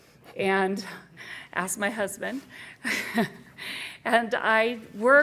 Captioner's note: laughs